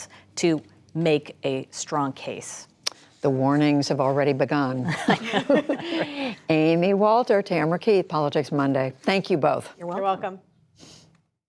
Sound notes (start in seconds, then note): 4.8 laughter